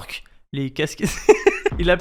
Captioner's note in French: Rire